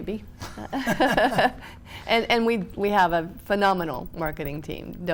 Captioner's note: both laughing